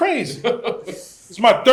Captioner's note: laughs